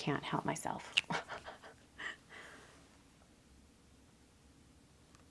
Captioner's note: laughing